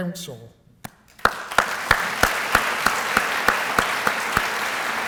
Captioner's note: applause